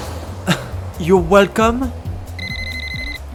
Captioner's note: car engine revs; scoffs; phone rings